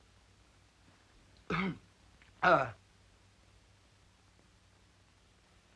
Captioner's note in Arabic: يصفي حلقه